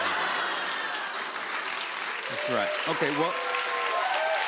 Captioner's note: laughter; cheers and applause